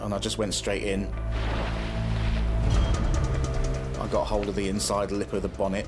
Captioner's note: sea splashes